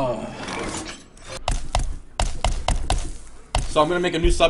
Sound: clicking intensifies

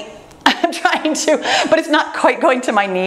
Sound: laughs

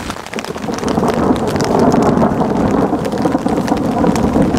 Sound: breezy wind and thunder

